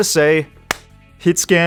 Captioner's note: clap